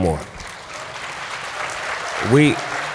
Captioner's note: applause